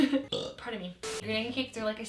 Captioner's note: laughs; burps